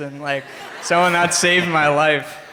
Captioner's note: crowd laughs